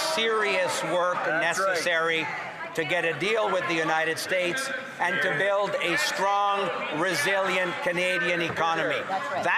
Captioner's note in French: voix de l'interprète